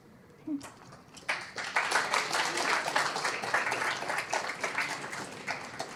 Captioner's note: applause